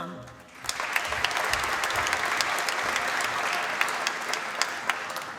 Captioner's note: applause